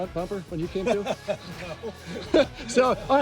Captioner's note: laughs